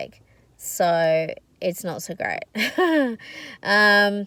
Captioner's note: wry laugh